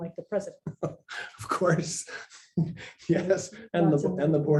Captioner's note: laughs